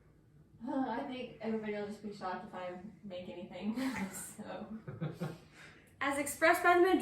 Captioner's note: all laughing